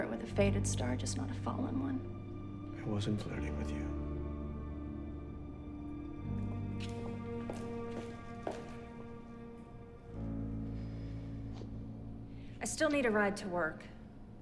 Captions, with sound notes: with a faded star just not a fallen one. - I wasn't flirting with you. (gentle music) (shoes clacking) - I still need a ride to work.